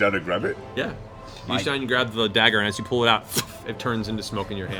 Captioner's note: poof